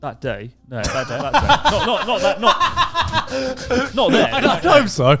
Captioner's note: laughing loudly